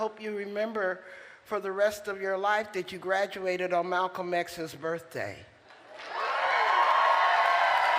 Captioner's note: applause